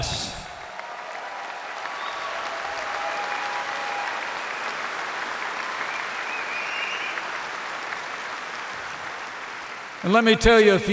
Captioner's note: applause